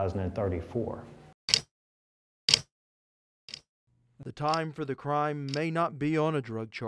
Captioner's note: clock ticking